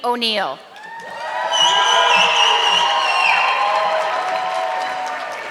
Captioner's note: audience clapping